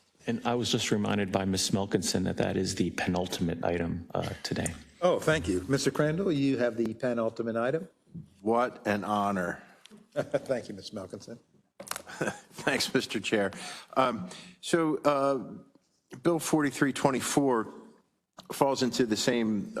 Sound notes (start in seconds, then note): 10.1 laugh; 12.0 laugh